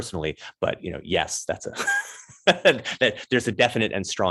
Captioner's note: laughs